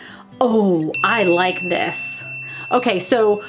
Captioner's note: bell dings